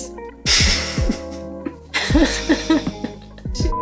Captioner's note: chuckles